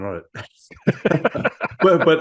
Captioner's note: laugh